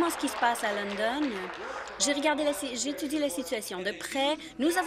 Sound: applause

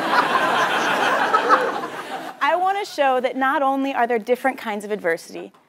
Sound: laugh

